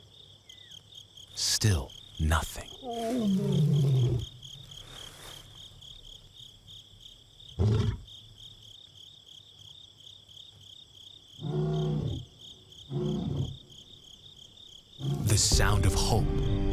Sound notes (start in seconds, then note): 2.8 lion roaring; 5.2 crickets chirring; 12.9 lion roaring